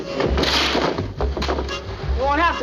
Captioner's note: glass breaking